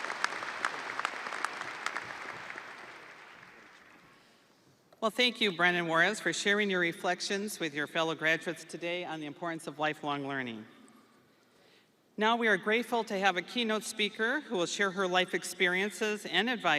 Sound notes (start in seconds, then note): 0.0 audience cheering; 0.0 audience applauding